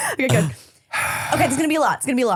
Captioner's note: loudly exhales